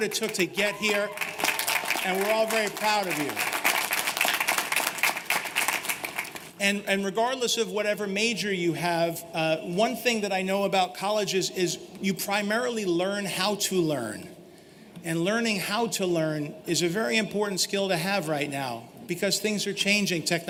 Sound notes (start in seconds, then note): 6.5 applause